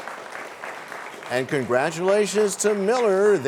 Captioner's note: applause